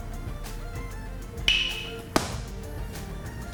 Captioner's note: crack